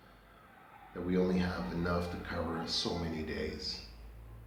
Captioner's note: roosters crowing